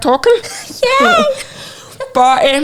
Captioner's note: giggling